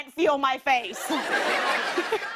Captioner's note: laughter